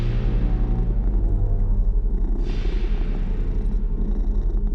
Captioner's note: purring